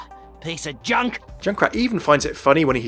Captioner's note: voiceover